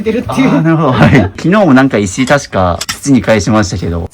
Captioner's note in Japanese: 笑い